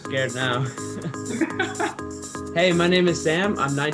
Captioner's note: laughs